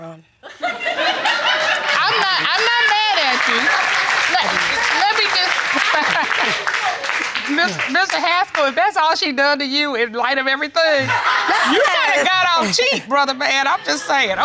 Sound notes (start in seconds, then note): 1.5 audience laughing; 3.1 audience applauding